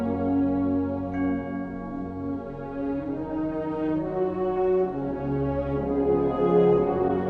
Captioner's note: bell rings